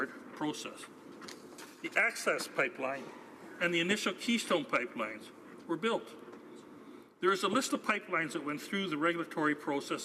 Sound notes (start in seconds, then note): none